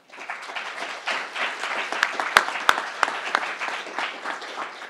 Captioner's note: crowd applauding